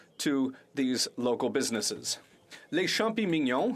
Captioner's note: speaking French